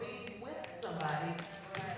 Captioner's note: applause